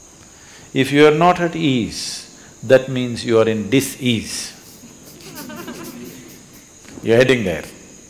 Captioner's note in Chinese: 笑聲